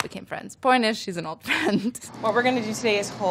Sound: laughs

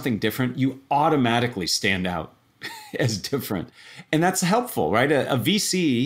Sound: laugh

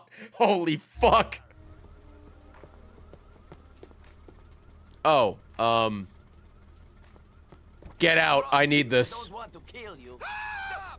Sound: laughs; laughs

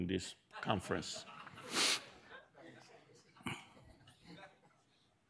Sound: audience chuckles

